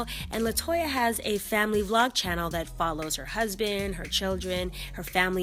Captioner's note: none